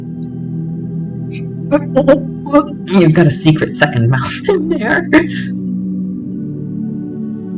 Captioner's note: laughter